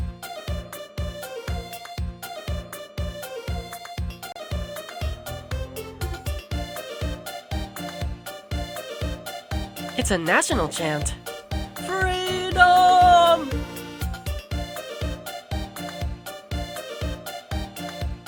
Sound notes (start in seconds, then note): 11.8 stifled fake-shout